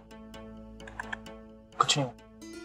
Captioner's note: clicks tongue